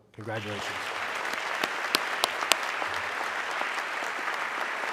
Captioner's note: audience clapping